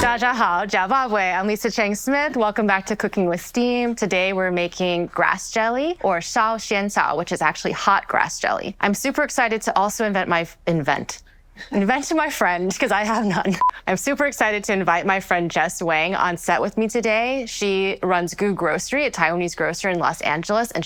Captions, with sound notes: 大家好，食飽未。I'm Lisa Cheng Smith. Welcome back to Cooking with Steam. Today we're making grass jelly, or 燒仙草, which is actually hot grass jelly. I'm super excited to also invent my- Invent? Invent my friend 'cause I have none. (beep) I'm super excited to invite my friend Jess Wang on set with me today. She runs Gu Grocery, aa Taiwanese grocer in Los Angeles,